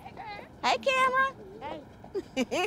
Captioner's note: laughs